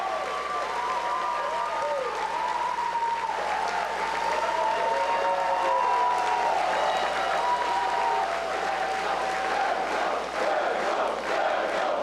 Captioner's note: cheers and applause